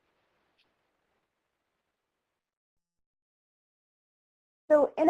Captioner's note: silence